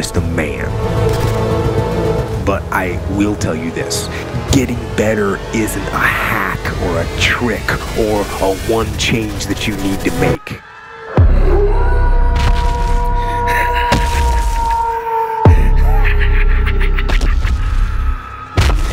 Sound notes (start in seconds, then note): 10.2 howling; 10.6 screaming